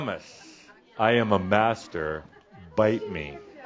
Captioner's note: shouts